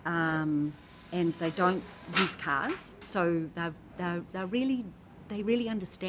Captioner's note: metal clangs